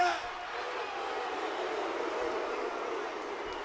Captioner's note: audience barking